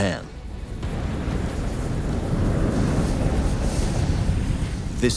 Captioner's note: ignition whooshes